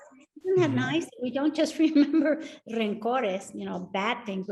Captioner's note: speaks Spanish